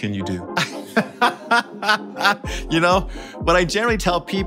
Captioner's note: laughing